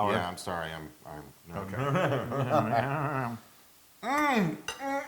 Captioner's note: laugh